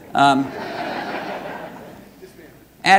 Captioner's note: audience laughing